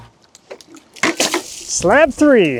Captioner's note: water splashing